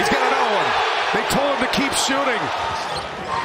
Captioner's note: cheers and applause